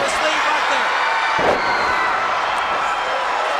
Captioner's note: crowd shout